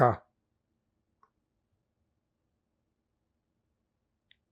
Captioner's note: pauses 8 seconds